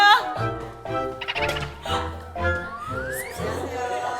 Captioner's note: hahaha